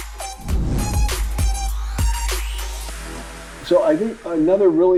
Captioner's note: swooshing